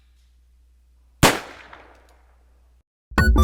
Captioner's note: gunshot